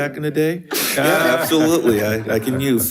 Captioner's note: participants laughing; talking off microphone